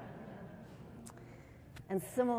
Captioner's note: laughter